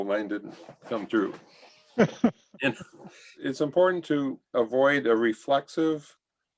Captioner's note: laughter